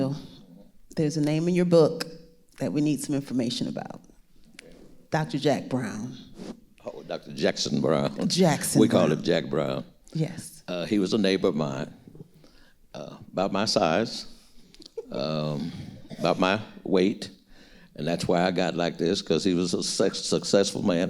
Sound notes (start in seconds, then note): 14.9 giggling